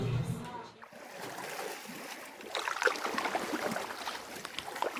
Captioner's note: water splashing